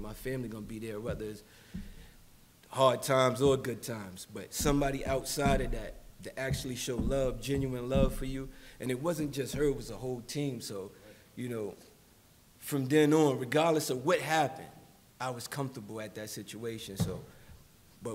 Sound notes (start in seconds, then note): none